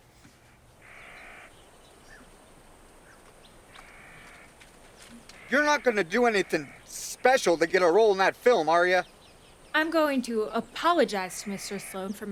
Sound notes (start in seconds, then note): 1.3 birds chirp